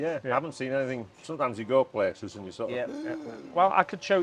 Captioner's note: gasps